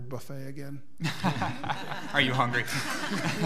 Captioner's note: laughing